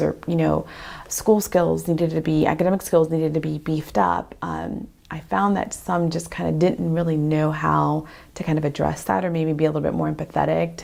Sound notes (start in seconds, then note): none